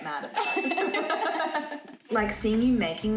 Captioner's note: both laughing